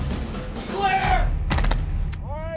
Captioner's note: voiceover; gunfire